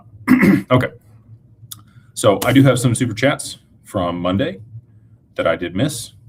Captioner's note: clears throat